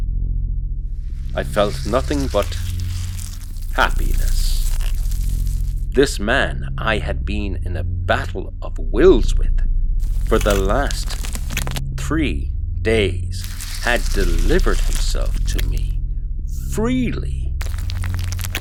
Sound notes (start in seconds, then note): 9.7 squelching; 13.3 flesh ripping; 17.6 flesh Shifting / Bone Crunching